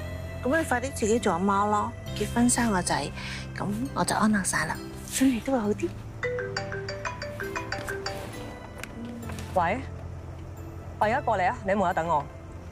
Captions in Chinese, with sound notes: 那你快點自己做媽媽, 結婚生小孩 那我就放心了, 身體也會好點 [來電鈴聲] 我現在過去, 你在門口等我